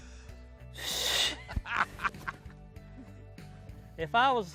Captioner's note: laughs